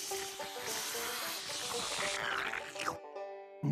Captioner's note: slurping